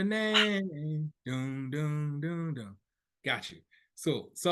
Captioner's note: humming